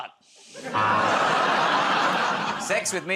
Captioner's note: laughter, buzzer